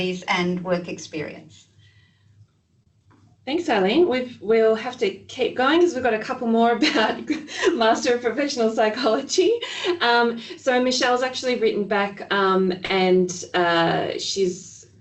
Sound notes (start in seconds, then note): 6.8 laughing